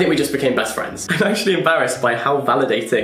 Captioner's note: laughing